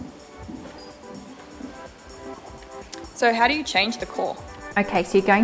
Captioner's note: footsteps